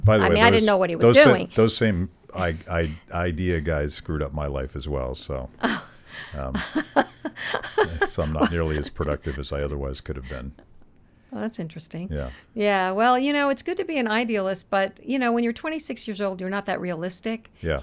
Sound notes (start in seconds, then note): 6.4 laughing